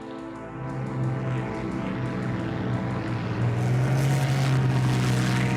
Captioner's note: plane engine roaring